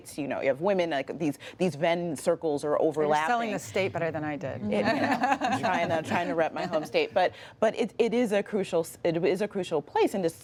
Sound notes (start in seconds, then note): 4.8 laughter